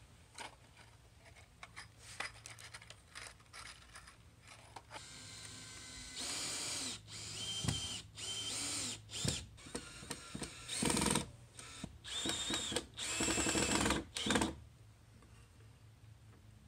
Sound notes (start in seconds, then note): 0.2 screws rattling; 4.9 drill